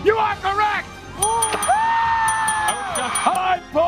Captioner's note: applause and cheering